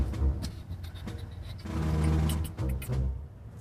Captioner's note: Downbeat quietly beatboxing